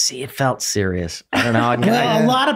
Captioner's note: laughing